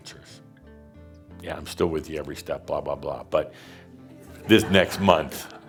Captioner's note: some laughter